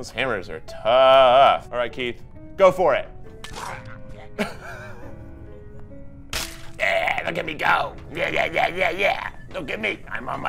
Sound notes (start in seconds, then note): 3.6 laughs